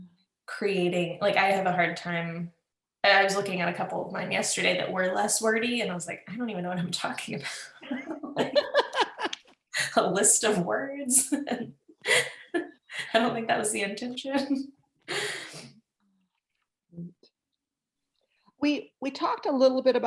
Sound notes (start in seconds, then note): 7.8 laughter; 11.1 laughs